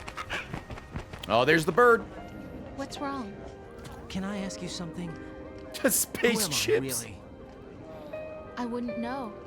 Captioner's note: laughs